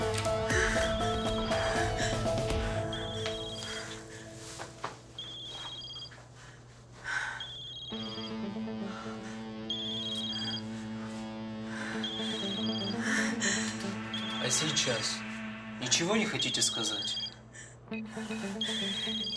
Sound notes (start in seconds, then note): 0.0 phone rings